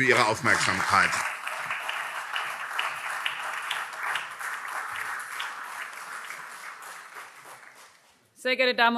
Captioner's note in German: Beifall CDU, SPD, BÜNDNIS 90/DIE GRÜNEN und Freie Demokraten